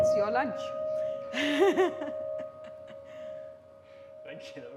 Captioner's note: laughter